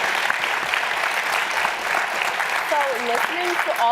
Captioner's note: applause